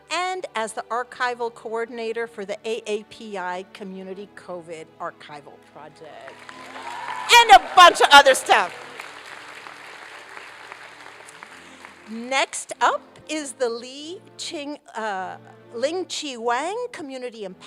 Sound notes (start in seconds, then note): 8.8 applause